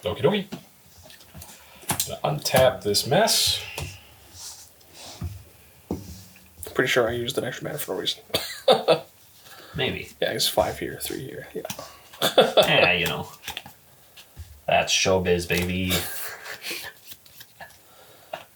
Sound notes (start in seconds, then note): 8.6 laughs; 17.4 sighs